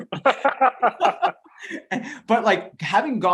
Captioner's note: both laughing